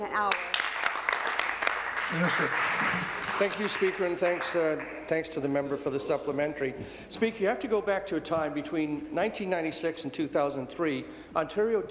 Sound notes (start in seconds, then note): 3.5 applause